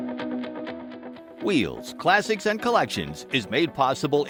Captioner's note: voiceover